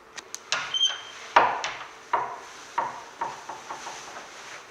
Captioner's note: door creaks